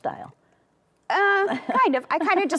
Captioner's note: laughs